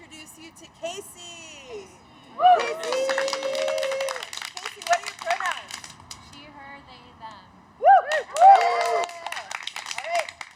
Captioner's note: cheers